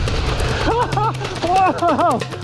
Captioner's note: laughing